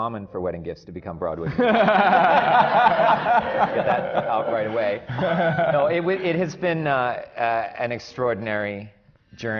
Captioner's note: laughter